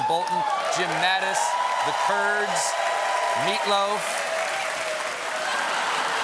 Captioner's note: cheers and applause